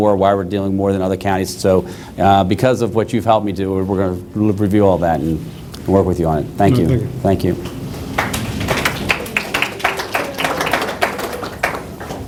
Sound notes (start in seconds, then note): 8.0 applause